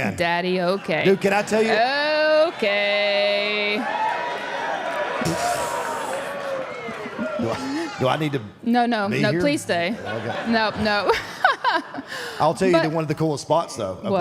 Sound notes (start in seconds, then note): 2.1 audience applauding; 2.6 audience cheering; 10.0 laughs